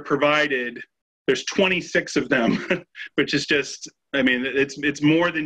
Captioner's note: chuckles